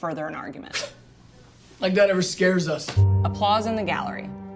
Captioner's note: scoffs